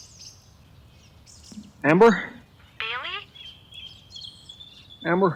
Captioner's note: birds chirping